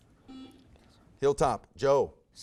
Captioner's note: buzzer buzzes